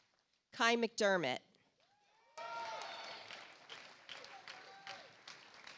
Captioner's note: audience applauds